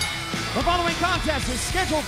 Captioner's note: bell ringing